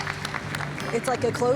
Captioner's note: audience clapping